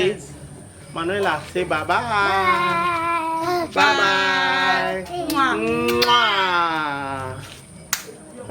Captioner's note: kisses